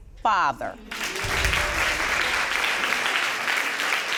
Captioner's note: audience applauding